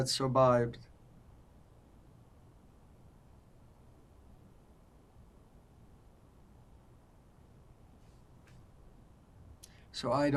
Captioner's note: pauses 8 seconds